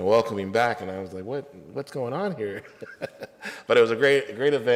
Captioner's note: laughs